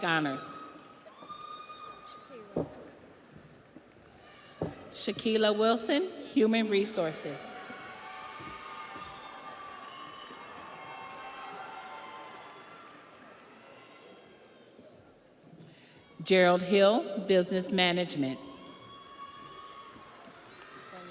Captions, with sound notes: Ihor Casienchik, Real Estate, Scholastic Honors. (audience applauds) (audience cheers) Shaquila Wilson, Human Resources. (audience applauds) (audience cheers) Gerald Hill, Business Management.